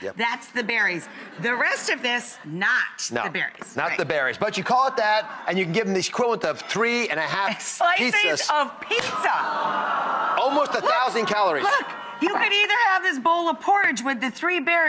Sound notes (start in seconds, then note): 0.2 laughter; 9.2 audience groaning